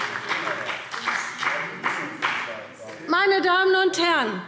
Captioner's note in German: Beifall BÜNDNIS 90/DIE GRÜNEN und SPD